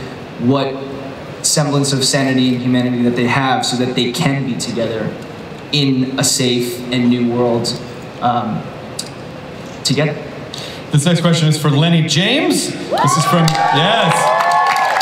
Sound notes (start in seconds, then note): 12.8 audience cheers